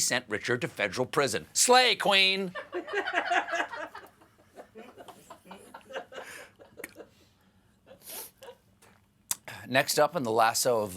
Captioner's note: laughter